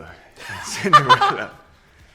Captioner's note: laughter